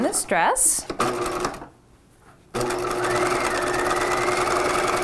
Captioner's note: machine whirring